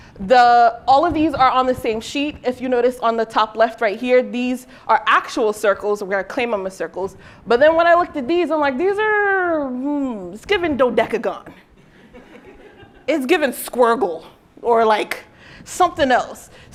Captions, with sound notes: The-- all of these are on the same sheet. If you notice on the top left right here, these are actual circles, where I claim them as circles. But then when I looked at these, I'm like, these are-- hm, it's giving dodecagon. [LAUGHTER] It's given squirgle or, like, something else.